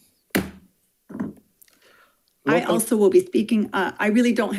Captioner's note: hammer slamming